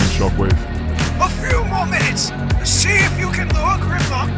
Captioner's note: shockwave on comms